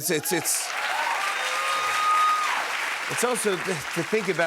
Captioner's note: cheers and applause